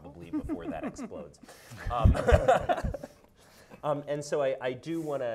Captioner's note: laughing